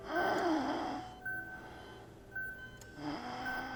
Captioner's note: David wheezing